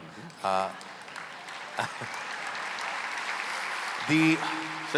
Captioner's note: applause